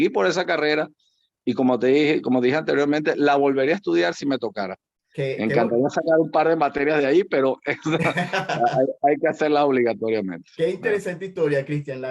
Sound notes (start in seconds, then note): 7.8 laugh